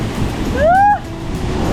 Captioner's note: screams